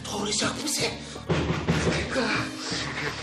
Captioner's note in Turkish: Kapı çalınmaya devam eder